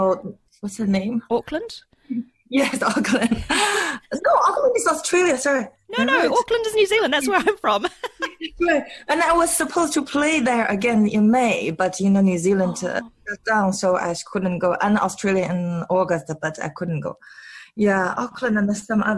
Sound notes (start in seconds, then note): 6.8 laughs